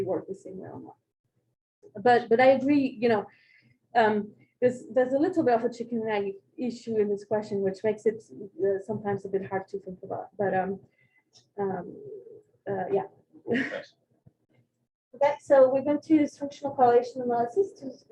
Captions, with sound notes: work the same way or not. But I agree, there's a little bit of a chicken and egg issue in this question, which makes it sometimes a bit hard to think about. But yeah. [CHUCKLE] OK? So we're going to switch to correlation analysis